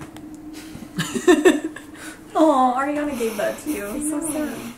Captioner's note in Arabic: يضحك